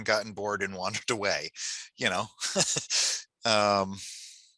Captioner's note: laughs